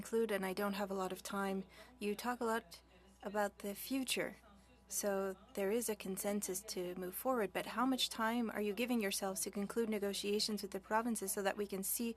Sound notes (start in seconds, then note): 1.3 speaking French